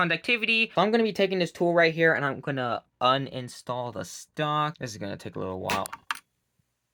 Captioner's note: loud Click Noise